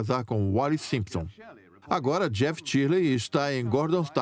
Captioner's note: voiceover